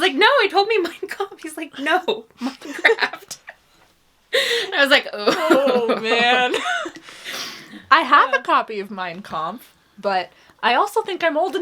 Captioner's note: laughs